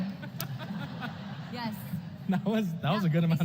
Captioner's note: laughter